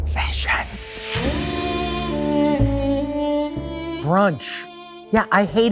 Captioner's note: dramatic music; text thuds